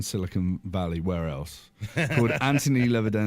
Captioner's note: laughing